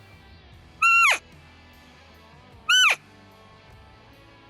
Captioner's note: elk call